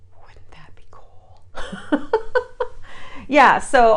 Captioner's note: laughs